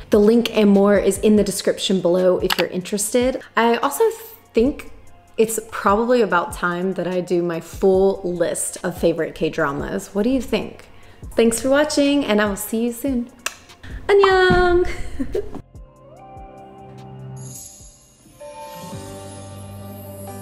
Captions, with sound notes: The link and more is in the description below if you're interested. I also think it's probably about time that I do my full list of favorite K dramas. What do you think? Thanks for watching and I will see you soon! (lips smacking) (speaking in foreign language) (dramatic music)